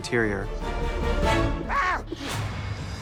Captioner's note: yelps